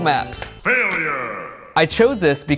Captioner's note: voiceover